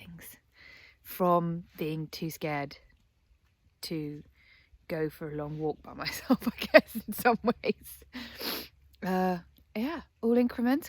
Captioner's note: laughs